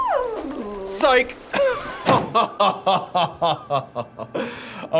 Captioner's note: fiendish laugh